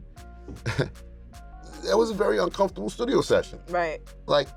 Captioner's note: scoffs